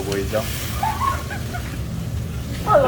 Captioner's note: laughter